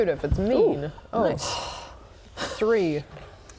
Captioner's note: sigh